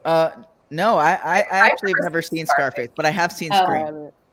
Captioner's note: stammers